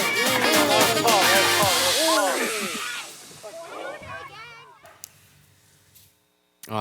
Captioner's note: upbeat music; crowd chattering